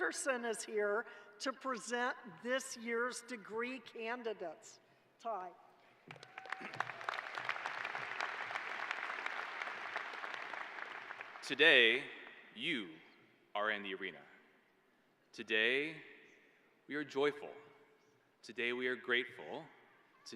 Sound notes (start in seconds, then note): 10.3 applause